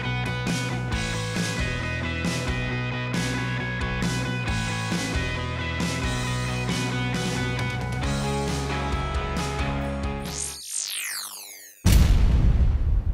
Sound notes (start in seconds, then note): 10.3 zap; 11.8 boom